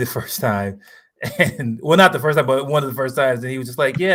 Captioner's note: laughs